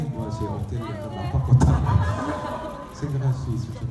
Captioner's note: audience members speaking in foreign language; speaking in foreign language